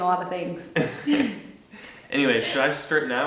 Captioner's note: light laughter